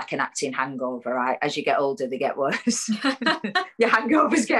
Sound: laughs

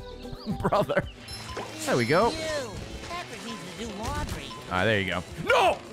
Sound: laughs

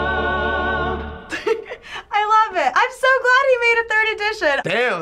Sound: laughs

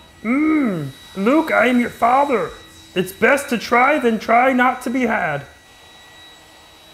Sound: in Yoda's voice

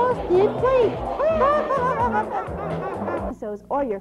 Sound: both characters execute evil laugh

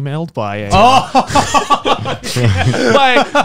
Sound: chuckling

